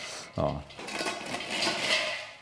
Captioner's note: clanking